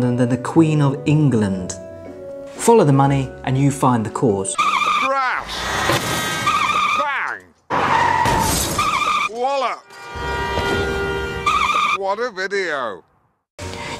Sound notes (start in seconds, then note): 4.5 tires screech; 6.3 horn blares; 7.6 tires screech; 8.3 glass smashes; 8.8 horn blares; 10.2 tires screech